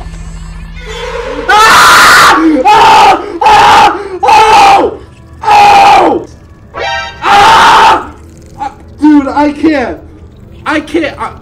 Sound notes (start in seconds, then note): 0.2 door creeks; 1.4 screams